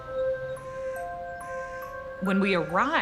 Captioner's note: mysterious music; bird cawing